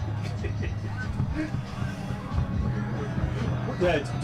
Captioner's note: interviewer laughing